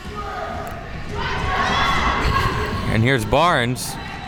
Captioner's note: spectators shouting